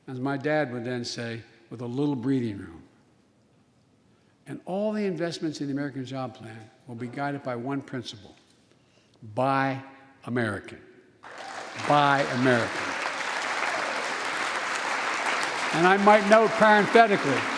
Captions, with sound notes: As my dad would then say, with a little breathing room. And all the investments in the American Jobs Plan will be guided by one principle: Buy American. Buy American. (applause) And I might note parenthetically,